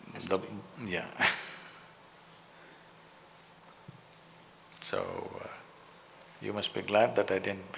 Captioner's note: laughs